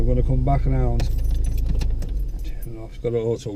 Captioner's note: keys jingling